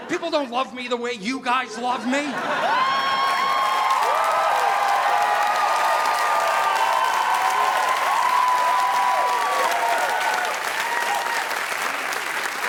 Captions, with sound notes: People don't love me the way you guys love me. (crowd cheering) (audience applauding)